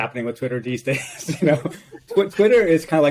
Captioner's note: laughing